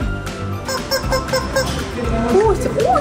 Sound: squeak

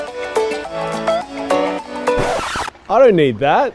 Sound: record scratch noise

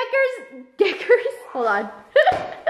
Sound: laughs

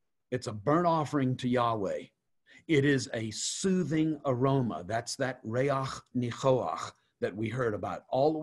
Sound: Hebrew

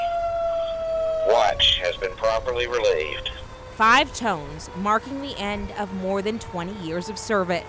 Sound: sirens

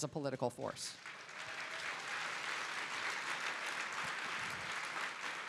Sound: audience applauding

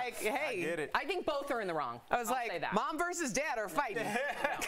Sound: laughter

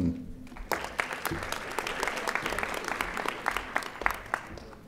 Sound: audience applauding

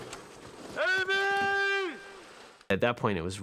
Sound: yelling

